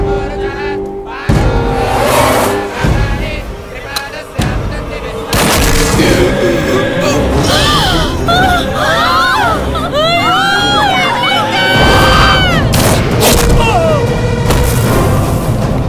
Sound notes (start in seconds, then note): 5.3 gunshot; 7.2 gasps; 12.7 gunshot